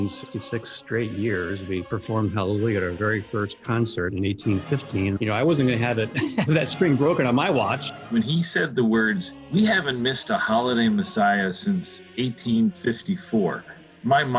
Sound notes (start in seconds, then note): 5.6 chuckling